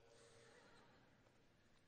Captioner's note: laughter